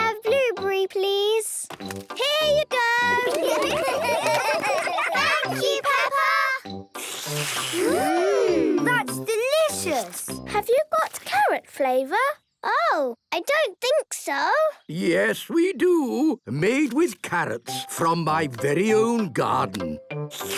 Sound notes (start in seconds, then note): 6.9 all slurping